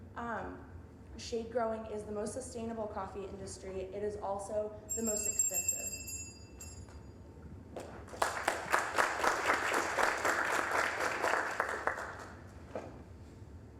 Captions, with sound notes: "SHADE-GROWING" IS THE MOST SUSTAINABLE COFFEE INDUSTRY. IT IS ALSO THE MOST EXPENSIVE-- (bell dinging) (applause)